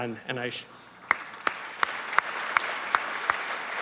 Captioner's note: applause